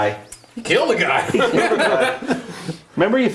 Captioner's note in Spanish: risas